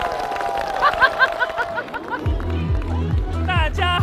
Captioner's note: hahahahahaha